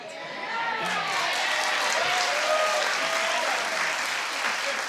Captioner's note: audience cheers